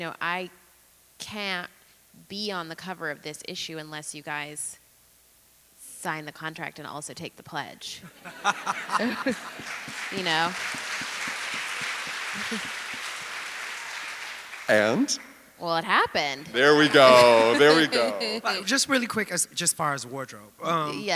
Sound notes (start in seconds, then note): 8.1 audience laughing; 8.2 laughing; 10.5 audience applauding